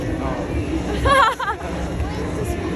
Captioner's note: all three laughing